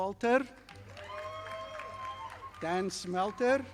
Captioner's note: audience applauding